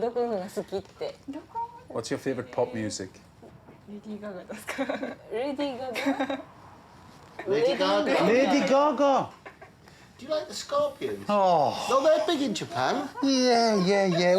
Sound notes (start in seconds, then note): 0.2 speaking Japanese; 4.9 speaks Japanese, giggles; 12.5 sighs